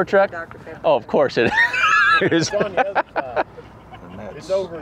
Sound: laughs

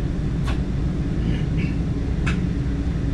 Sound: clears throat

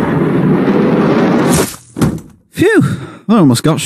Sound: bang; bam!; flump

